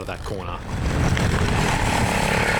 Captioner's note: engine revving